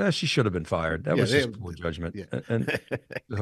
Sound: chuckles

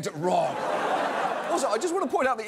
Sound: audience laughs

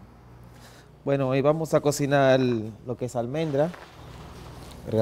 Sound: speaks Spanish

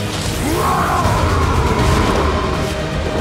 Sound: bellows

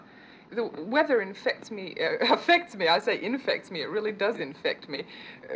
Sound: laughs

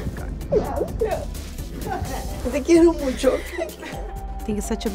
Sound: Eileen's grandma speaks in foreign language

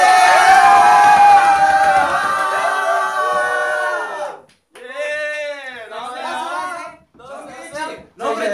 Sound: screaming

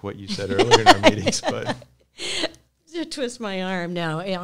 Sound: chuckles

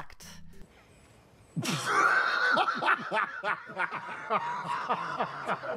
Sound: laughter

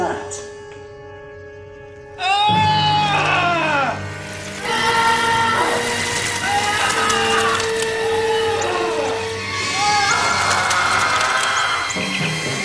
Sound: numerous screams

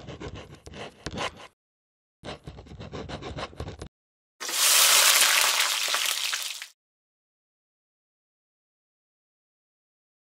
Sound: pencil noises and sizzling grill noises

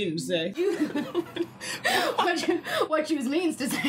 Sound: laughing

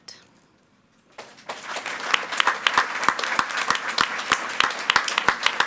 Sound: audience clapping

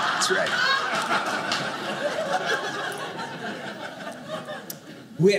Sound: audience laughing

